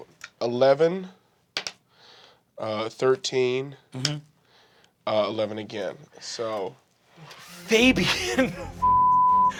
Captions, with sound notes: 11. 13. 11 again, so... - Fabian, (beeping).